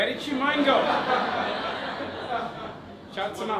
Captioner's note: audience laughter